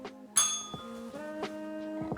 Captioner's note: bell rings